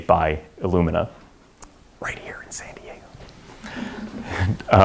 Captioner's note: whispered